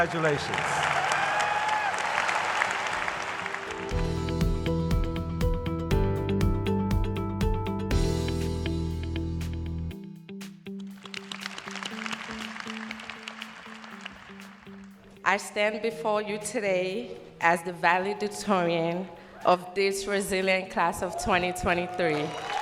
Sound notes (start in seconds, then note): 4.2 cheers and applause; 13.8 applause